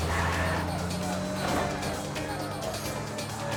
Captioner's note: car engine revs